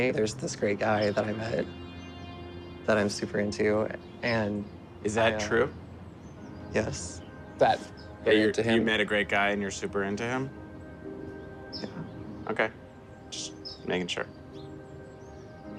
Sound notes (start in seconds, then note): none